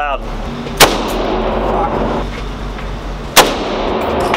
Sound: gunshots banging

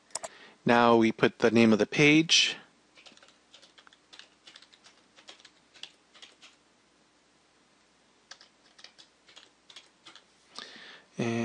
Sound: typing

